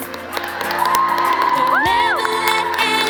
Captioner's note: applause